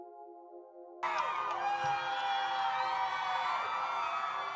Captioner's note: crowd cheering